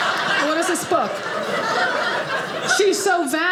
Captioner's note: audience laughing